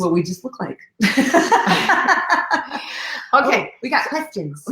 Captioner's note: laughing